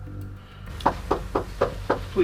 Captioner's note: knocking